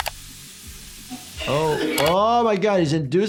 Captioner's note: person gags